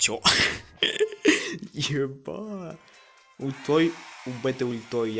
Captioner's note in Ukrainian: сміється